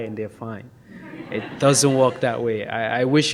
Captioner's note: audience laughs